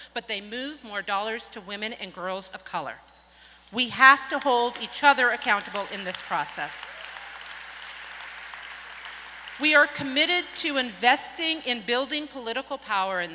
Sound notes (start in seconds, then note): 5.6 audience applauds